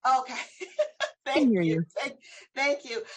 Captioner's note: laughs